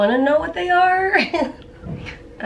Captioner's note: chuckles